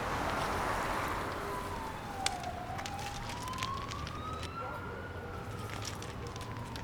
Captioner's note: money flutters in the air; dogs barking and police sirens